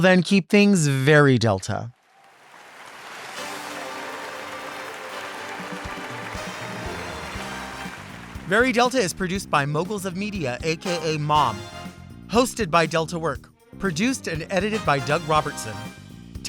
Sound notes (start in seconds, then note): 2.0 audience applauds